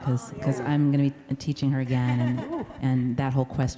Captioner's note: laughs